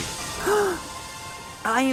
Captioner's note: gasp